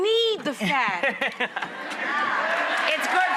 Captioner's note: laughter